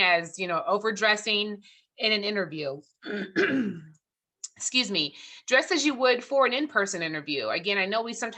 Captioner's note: throat clearing